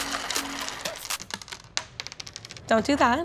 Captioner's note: pasta clanking on table